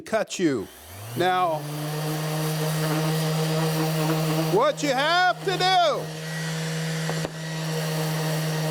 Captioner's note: machine roaring